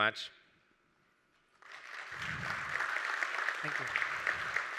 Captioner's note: applause